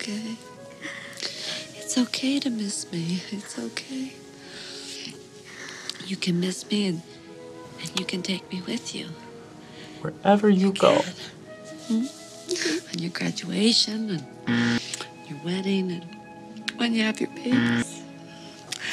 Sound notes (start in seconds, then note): 14.5 buzzer rings; 17.6 buzzer rings